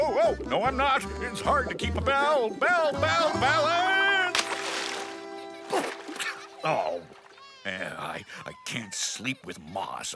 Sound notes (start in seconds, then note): 5.1 coughing